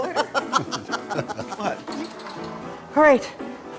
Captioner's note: laughter